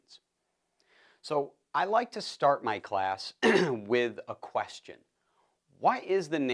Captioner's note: cough